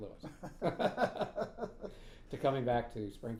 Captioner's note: laughing